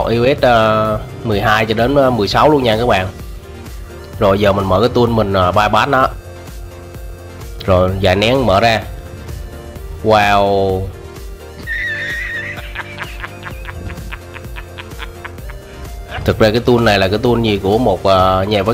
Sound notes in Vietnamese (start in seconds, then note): 11.6 Tiếng cười